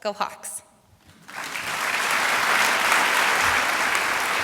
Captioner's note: applause